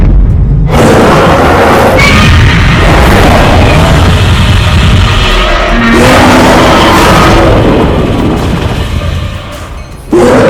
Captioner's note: Godzilla roars fire; Godzilla and Kong Roaring loudly; train crossing bells